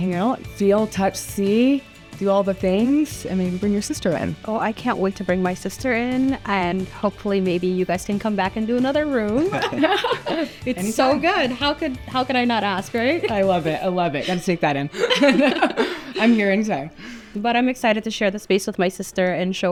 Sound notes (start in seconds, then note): 9.4 all laugh; 14.8 both laugh